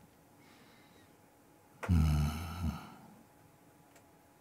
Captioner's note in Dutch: stilte